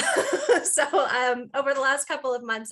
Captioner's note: laughing